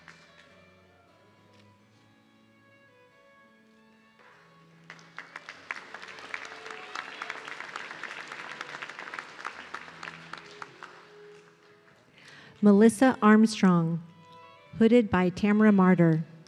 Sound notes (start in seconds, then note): 4.8 audience clapping